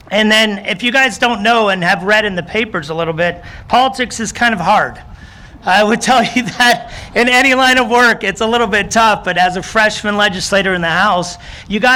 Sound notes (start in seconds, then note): 6.1 audience laughing